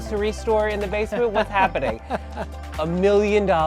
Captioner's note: laughs